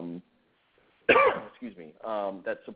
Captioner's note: instructor Coughs